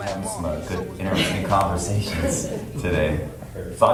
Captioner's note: participants chuckle